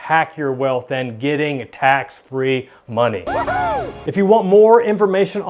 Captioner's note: cheers